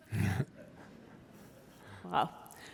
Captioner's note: chuckling